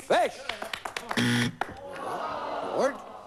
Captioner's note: buzz